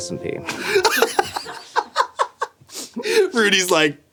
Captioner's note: laughing